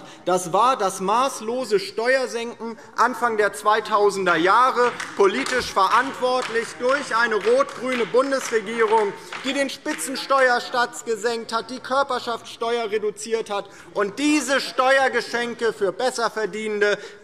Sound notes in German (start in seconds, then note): 4.7 Beifall DIE LINKE